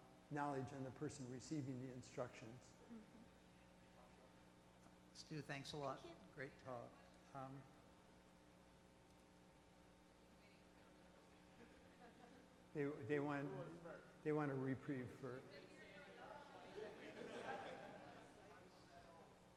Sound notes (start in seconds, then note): 5.5 voiceover; 16.1 audience murmurs